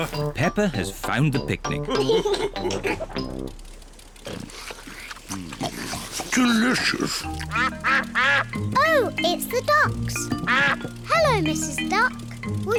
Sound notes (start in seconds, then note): 1.9 all laugh; 7.4 ducks quack